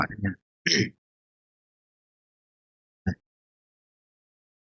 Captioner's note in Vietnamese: hắng giọng